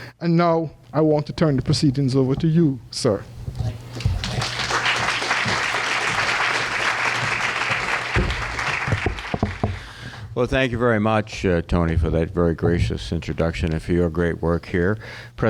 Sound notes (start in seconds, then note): 4.2 applause